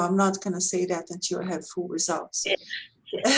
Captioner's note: laughs